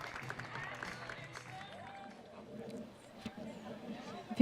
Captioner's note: applause